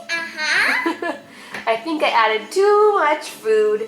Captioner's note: laughing